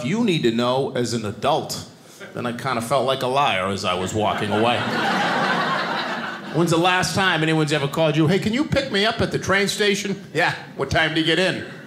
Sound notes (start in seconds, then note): 4.2 audience laughing